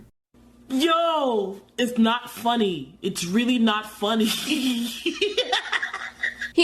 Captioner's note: laughs